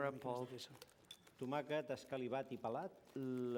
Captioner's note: non-english speech